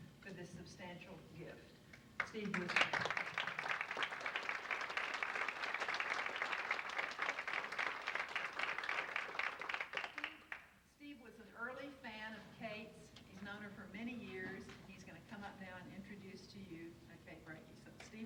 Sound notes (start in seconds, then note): 2.4 audience applauds